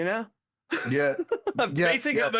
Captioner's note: laughing